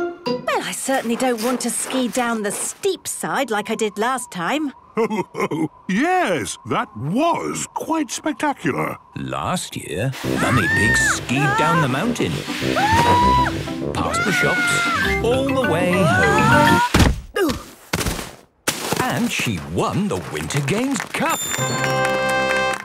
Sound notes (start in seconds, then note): 12.7 screaming; 16.7 exclaiming and grunting; 21.4 triumphant music